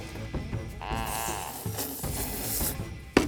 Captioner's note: slurping together